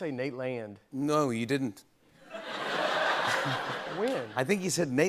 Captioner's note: laughter